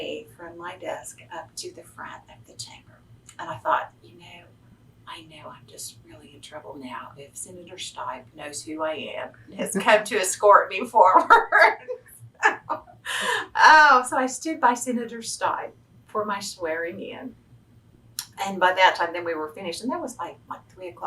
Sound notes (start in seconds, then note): 12.3 laughs